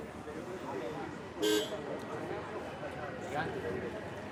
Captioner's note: horn honks